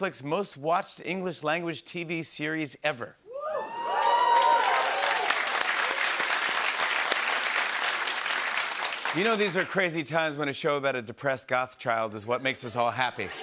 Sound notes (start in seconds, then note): 3.3 cheers and applause